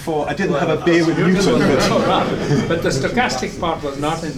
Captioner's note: drowned out by laughter